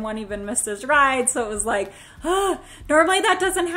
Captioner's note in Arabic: تتنهد